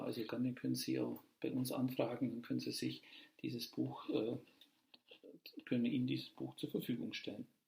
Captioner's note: in German